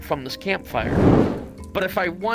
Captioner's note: fire whooshes